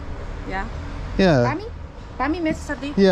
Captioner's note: in dutch